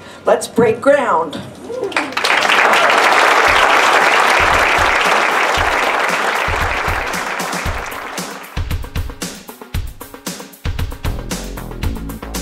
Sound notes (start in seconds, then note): 1.8 applause